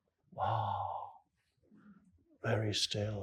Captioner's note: none